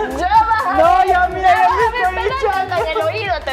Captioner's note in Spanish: laughs